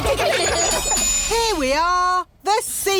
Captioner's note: laughter